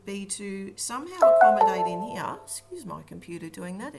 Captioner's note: computer alarm sounds